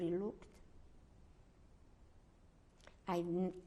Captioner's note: pauses for 3 seconds